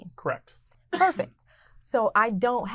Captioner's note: coughing